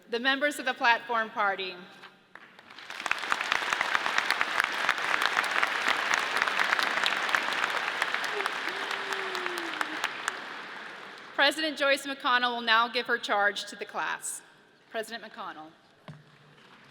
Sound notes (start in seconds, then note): 2.6 audience applauds